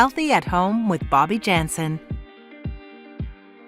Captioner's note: energetic music; voiceover